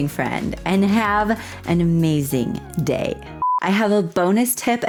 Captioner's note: blooper beep